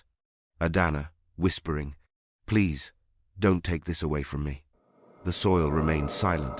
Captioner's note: whispering